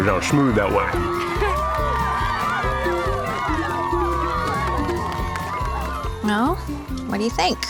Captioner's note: cheering